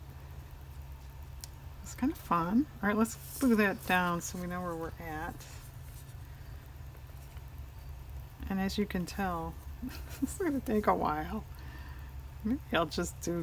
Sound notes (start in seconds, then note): 9.8 laughs